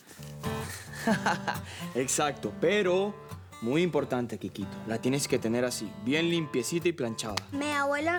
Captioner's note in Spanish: Risas